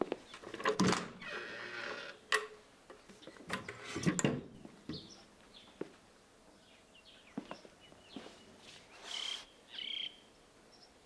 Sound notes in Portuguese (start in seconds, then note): 0.4 Abrir de armário; 3.5 Fechar de armário